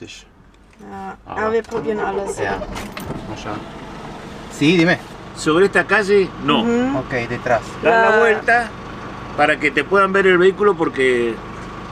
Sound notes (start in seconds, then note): 4.4 in Spanish